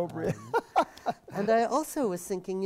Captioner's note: laugh